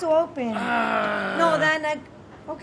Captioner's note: grunts